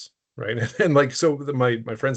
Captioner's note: chuckling